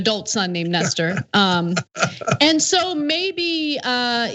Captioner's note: laugh